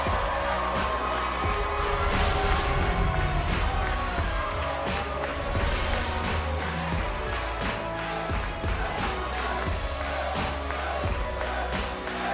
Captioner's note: cheers & boos